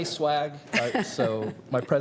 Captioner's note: laughter